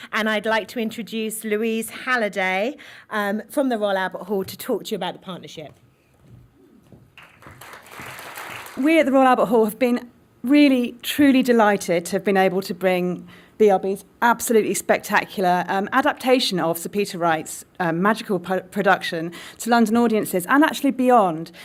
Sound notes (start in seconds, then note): 7.1 applause